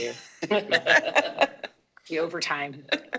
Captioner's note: all laughing